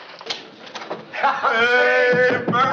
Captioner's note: laughing